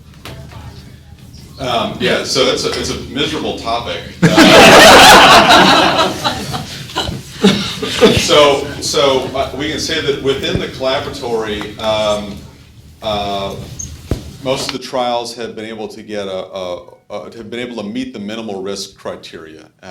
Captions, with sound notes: - So it's a miserable topic. (class laughing) So we can say that within the Collaboratory most of the trials have been able to meet the minimal risk criteria